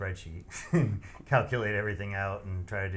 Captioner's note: laughs